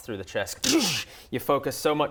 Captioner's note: zap